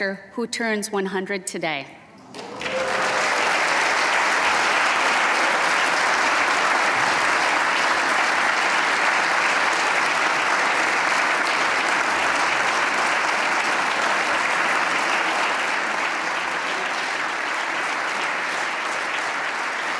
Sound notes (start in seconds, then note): 6.6 applause